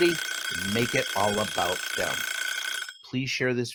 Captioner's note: alarm ringing